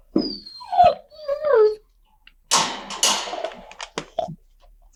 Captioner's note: dog whimpering